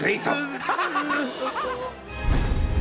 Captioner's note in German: schüler lachen